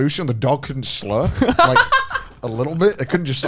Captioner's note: laughs